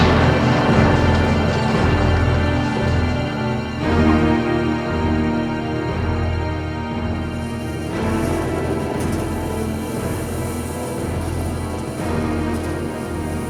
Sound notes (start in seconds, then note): 0.2 tense music plays; 7.6 electric crackling